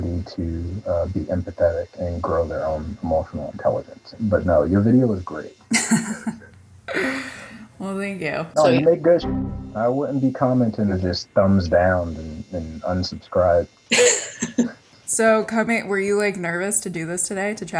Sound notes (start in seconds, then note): 5.7 laughs; 9.3 boing sound; 13.9 laughs